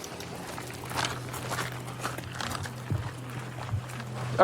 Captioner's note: footsteps crunching